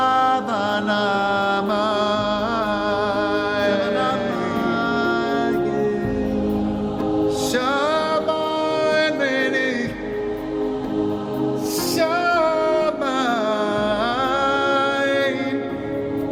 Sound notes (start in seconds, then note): none